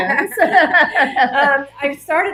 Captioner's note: laughing